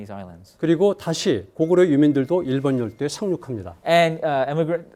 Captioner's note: speaking in Korean